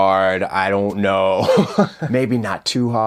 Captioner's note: chuckles